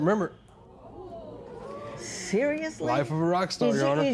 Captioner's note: spectators murmur